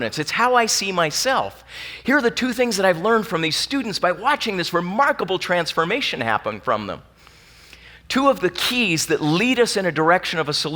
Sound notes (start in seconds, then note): none